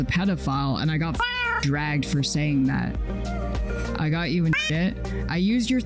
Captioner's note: meow